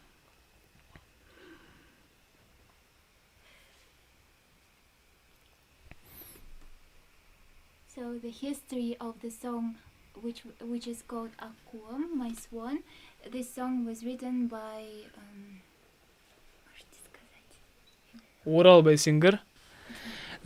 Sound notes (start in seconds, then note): 15.9 girl whispering cutely using honorifics